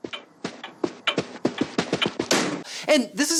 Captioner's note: clock ticking